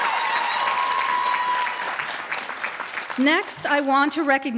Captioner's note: applause